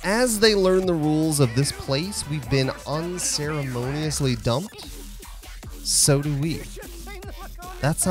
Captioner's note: cough, tutorial, cough